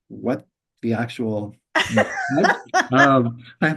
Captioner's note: laughs